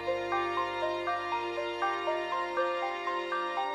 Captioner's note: chimes